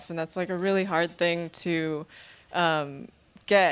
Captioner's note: none